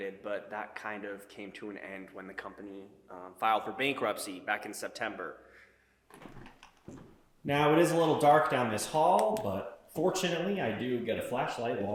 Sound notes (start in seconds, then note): none